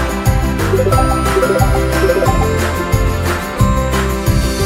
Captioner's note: electronic tone